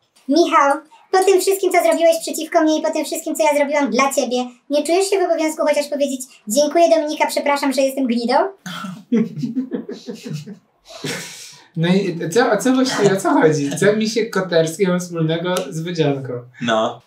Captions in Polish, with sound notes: "Michał, po tym wszystkim, co zrobiłeś przeciwko mnie i po tym wszystkim, co ja zrobiłam dla ciebie, nie czujesz się w obowiązku chociaż powiedzieć: "Dziękuję, Dominika, przepraszam, że jestem gnidą"? (śmiech) No i, i co właściwie, o co chodzi, co Misiek Koterski ma wspólnego z Wodzianką? No.